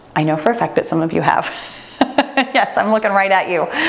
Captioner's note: laughs